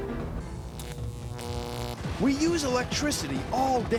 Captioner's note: <i> electrical buzzing</i>